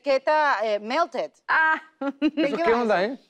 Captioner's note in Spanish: Ríe